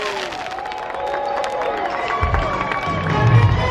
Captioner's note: crowd applauding; upbeat music